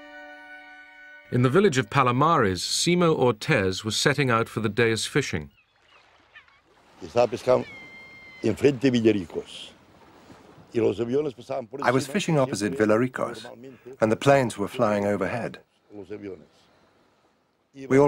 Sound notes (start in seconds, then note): 7.9 speaking Spanish